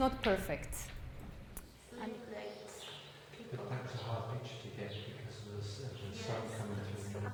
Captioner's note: people mumbling and birds chirping